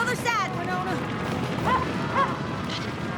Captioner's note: barking